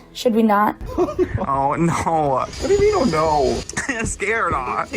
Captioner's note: giggles